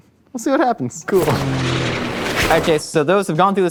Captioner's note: plane revving